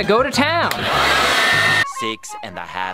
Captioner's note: blow dryer whirs